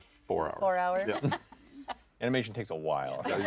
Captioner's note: laughs; laughter